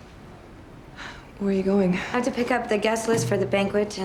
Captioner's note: sighs